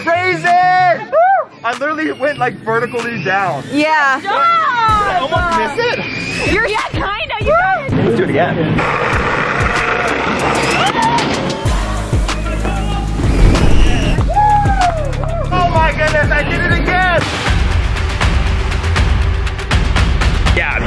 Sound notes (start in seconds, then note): 9.6 bike rolling; 11.1 spectators yelling; 17.4 dramatic music